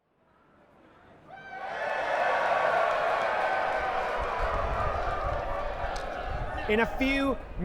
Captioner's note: crowd cheers loudly